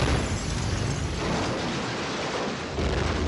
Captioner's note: glass shattering